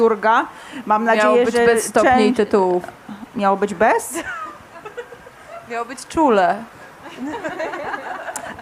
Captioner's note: śmiech